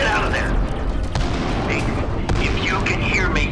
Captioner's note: explosion booming